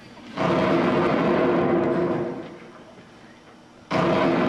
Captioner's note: explosions